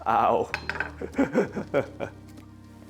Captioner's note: laughs